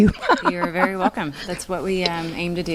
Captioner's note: laughing